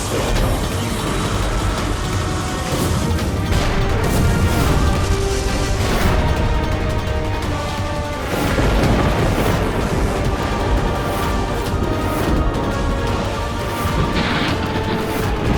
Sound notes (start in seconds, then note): 2.7 explosion